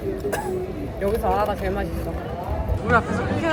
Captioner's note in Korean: 아직도 기침 중